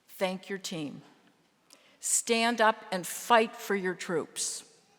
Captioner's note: none